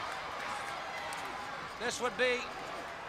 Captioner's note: crowd cheering